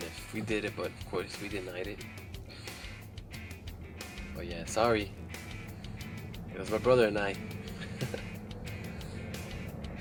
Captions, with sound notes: if we did it, but of course, we denied it. Yeah, sorry, it was my brother and I! (laughs)